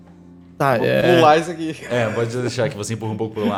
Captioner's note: laugh